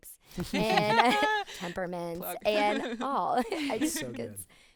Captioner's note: group laughing